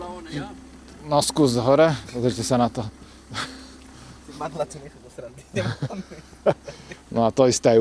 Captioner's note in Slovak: smiech